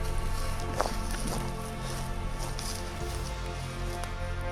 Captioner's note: footsteps